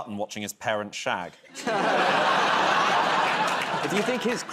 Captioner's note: laughter